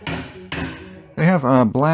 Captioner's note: hammering sounds